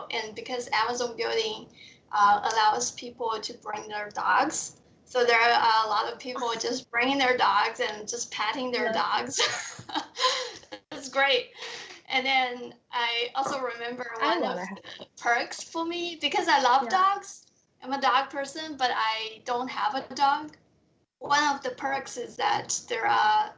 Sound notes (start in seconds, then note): 8.7 laughs